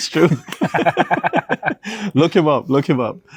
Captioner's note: both laugh